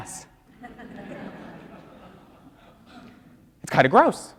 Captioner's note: audience laughs